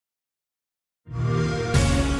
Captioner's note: fast-paced, haunting music; xbox sound